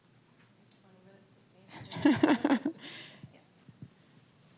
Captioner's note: presenters chuckling